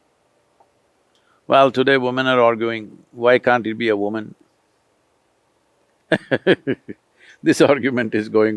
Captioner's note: laughs